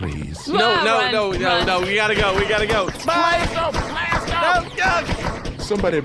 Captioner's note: blaster shots whizz past them